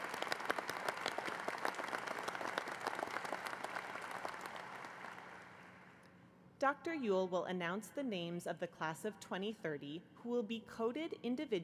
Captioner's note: applause